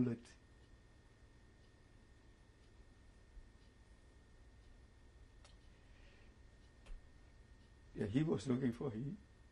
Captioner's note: pauses for 7 seconds; pauses for 3 seconds